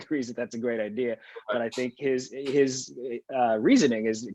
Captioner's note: laughs